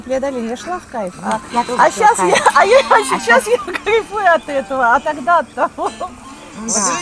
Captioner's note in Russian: смех